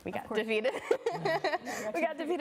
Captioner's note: laughing